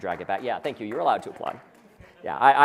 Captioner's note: applause